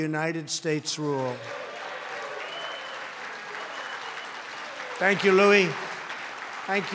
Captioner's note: applause